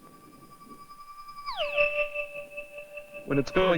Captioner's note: resonating